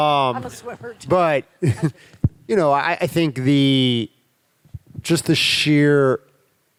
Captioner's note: chuckles